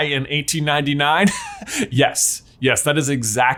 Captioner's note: chuckles